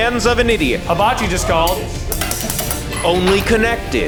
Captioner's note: utensils clinking